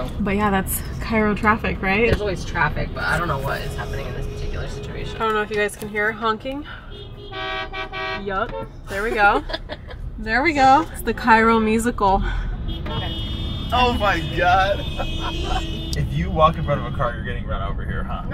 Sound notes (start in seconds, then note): 6.8 cars honking; 8.8 laughs